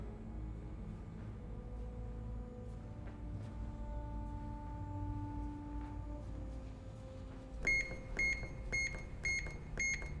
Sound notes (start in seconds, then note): 7.6 beeping